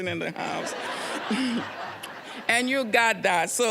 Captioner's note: audience laughing